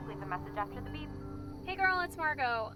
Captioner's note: phone beeps